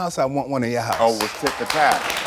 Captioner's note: audience applauds